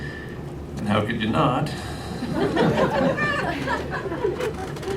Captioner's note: laughter